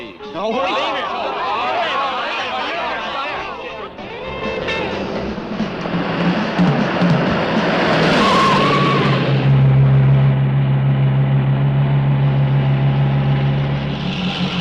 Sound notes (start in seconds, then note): 0.2 teens clamoring; 8.2 tires screeching